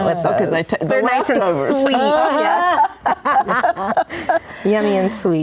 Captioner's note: laughing